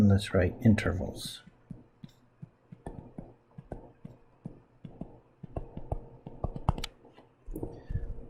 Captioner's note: writing Sounds